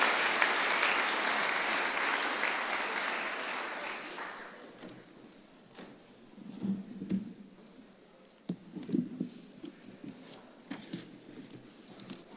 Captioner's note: applause